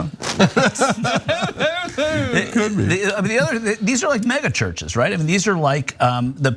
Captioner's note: laugh